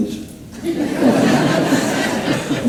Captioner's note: laughter